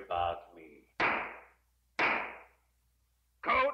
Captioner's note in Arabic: ضربات قوية